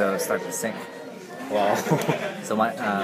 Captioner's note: laughs